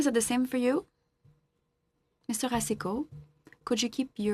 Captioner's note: speaking French